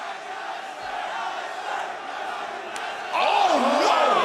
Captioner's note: crowd chatter